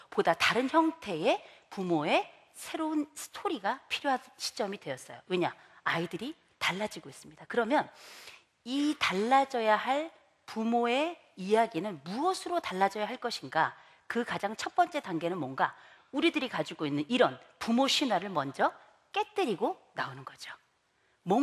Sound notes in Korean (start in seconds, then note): none